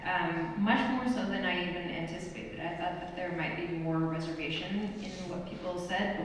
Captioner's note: none